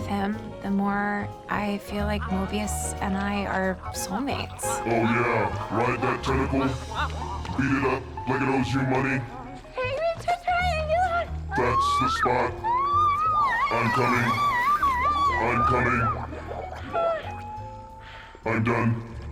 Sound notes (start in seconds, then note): 4.5 smooches, moans; 9.3 moans, screams; 16.1 screams, pants